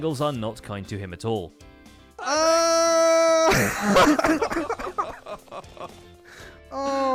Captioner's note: laughing